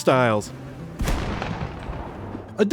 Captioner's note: explosion